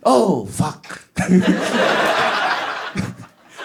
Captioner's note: laughs